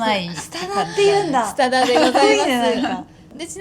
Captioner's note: laughs